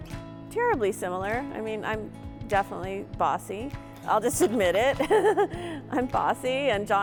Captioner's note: laughs